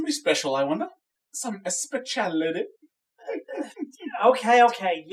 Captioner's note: chuckles